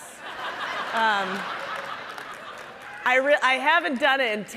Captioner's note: audience laughing